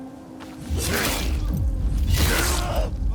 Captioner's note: grunting